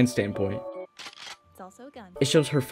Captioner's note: cocks weapon